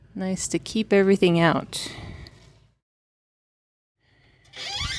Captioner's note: door squeaking